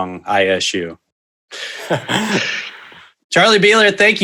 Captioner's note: both laughing softly